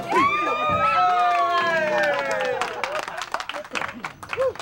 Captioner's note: group cheering